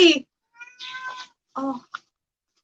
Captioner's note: cat meows